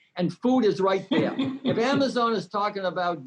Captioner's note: people laughing